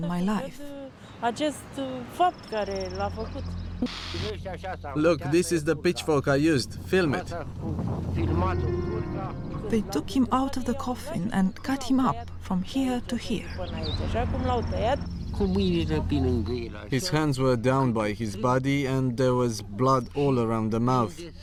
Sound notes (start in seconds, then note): 3.8 static